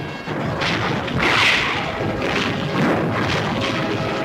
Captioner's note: bombs exploding